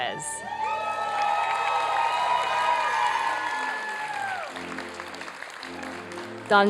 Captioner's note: applause and cheering